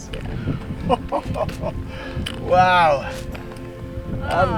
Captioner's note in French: rires